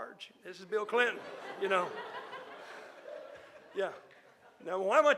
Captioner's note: audience laughing